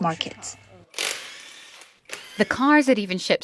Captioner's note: machine whirring